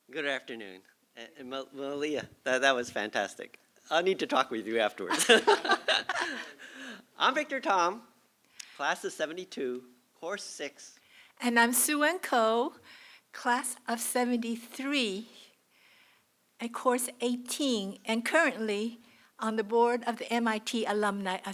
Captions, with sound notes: Good afternoon. And Malia, that was fantastic. I need to talk with you afterwards [LAUGHING] I'm Victor Tom, class of '72, course 6. And I'm Sze-Wen Kuo, class of '73 and course 18, and currently on the board of the MIT Alumni